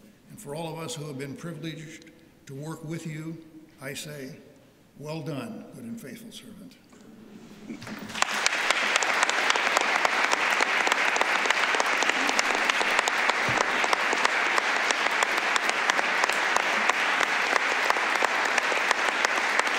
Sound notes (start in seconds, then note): 7.8 applause